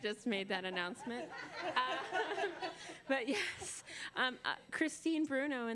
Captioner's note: laughter